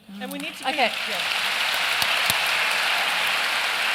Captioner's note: applause